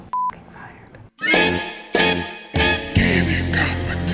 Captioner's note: horns blare